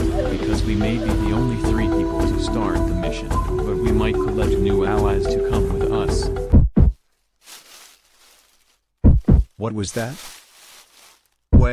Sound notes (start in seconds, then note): 6.4 Zuma's Revenge "warning1.ogg" danger heartbeat; 6.6 bushes rustling